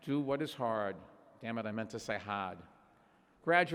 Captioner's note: imitating kennedy